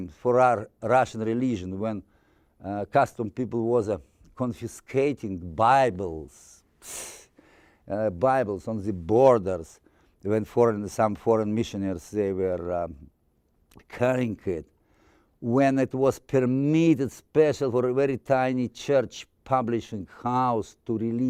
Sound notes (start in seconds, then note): 7.0 scoffing